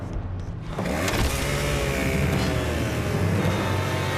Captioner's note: chain saw revving